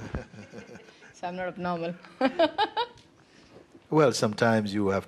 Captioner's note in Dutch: lacht